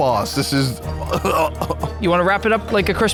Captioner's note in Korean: 웃음